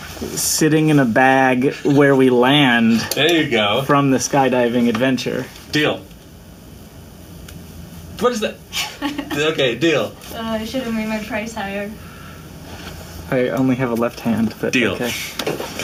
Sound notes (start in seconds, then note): 2.3 chuckling; 8.7 laughs